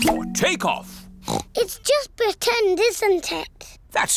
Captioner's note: oinks